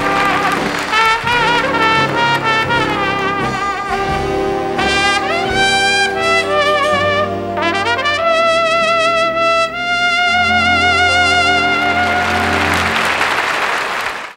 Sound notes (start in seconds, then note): 0.0 audience applauding; 10.6 audience applauding